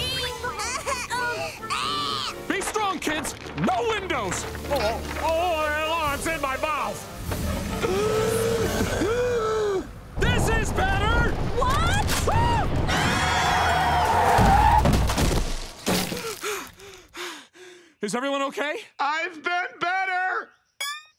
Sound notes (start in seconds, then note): 0.1 coughing, groaning; 4.2 groaning; 7.9 gasping; 12.2 screaming; 12.8 tires screeching